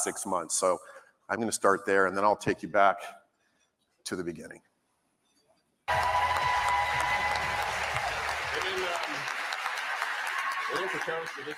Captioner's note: applause